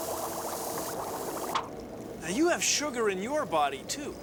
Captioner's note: none